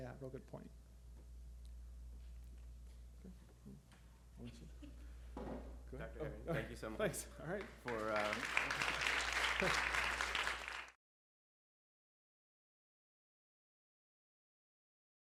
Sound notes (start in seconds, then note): 7.4 applause